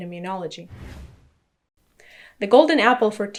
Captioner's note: air whooshing